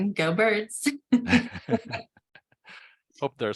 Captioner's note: laughter